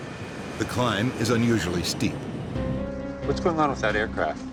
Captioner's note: jet engines whining; voiceover